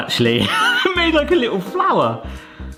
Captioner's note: laughing